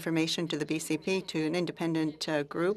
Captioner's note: speaking french